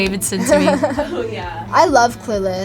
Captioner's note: laughs